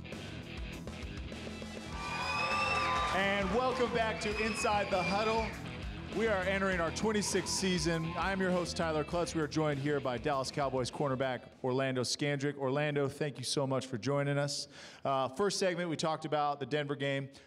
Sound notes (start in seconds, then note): 1.8 applause and cheers